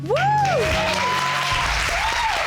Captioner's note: audience cheering